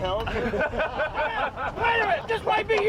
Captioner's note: crew laughing